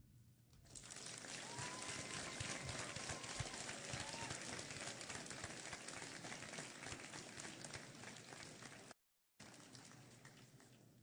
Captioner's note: applause